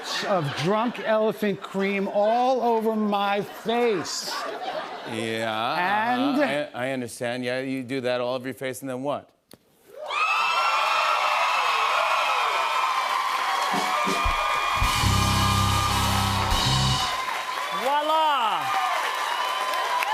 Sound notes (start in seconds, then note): 9.7 cheers and applause; 19.9 cheers and applause continues